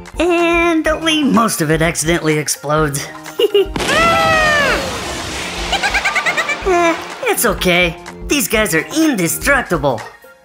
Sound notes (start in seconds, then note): 3.3 Dr. McTinker laughs; 3.7 explosion; 3.8 Gigglebots scream; 5.7 Gigglebot laughs